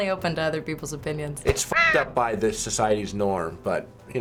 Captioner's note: caw!